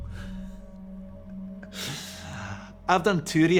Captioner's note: Johnny laughs